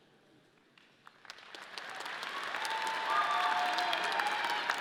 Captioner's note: audience clapping